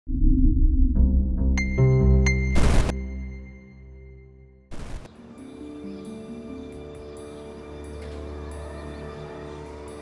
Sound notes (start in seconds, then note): 0.4 dark brooding music; 2.9 static hisses; 5.0 tense brooding music